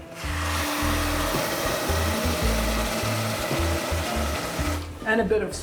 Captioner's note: sizzling